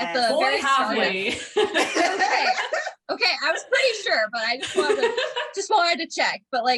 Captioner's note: laughter